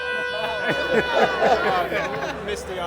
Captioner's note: group laughs